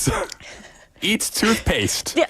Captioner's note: cough